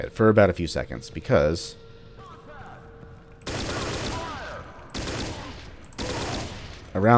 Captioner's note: M16 firing